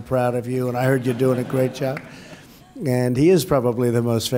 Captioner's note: laughter